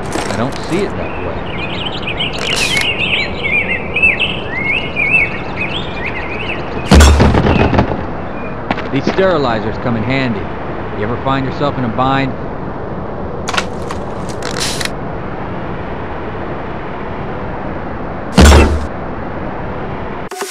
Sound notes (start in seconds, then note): 6.9 compound Bow Fires!; 14.1 compound Bow Stretches; 18.4 compound Bow Shoots! and armor deflects the arrow